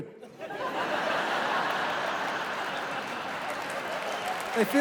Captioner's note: laughter